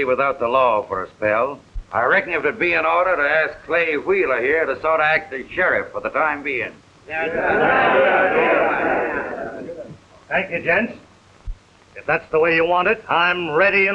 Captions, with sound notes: for a spell, I reckon it would be in order to ask Clay Wheeler here to sort of act as sheriff for the time being. (crowd murmurs assent) Thank you, gents. It that's the way you want it, I'm ready and willing.